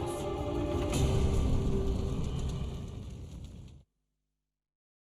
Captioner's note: flames crackling